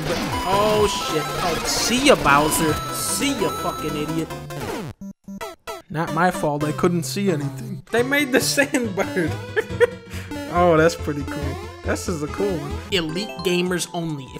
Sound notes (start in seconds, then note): 8.6 laughs